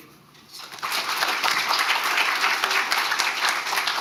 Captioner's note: crowd applauding